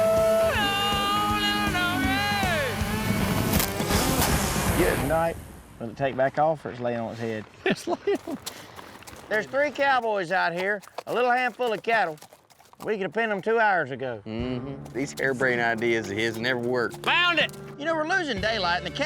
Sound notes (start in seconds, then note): 4.1 buzz, thuds; 7.6 chuckling